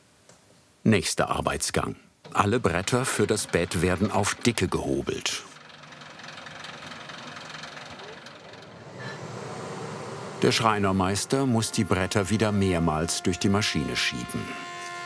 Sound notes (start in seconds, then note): 6.1 rattling